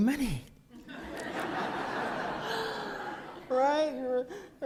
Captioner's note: laughter